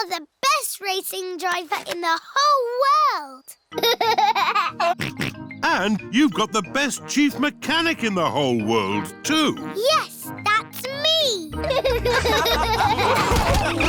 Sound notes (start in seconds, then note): 3.8 laughs and snorts; 11.6 all laughing